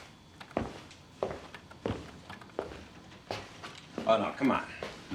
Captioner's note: footsteps clomping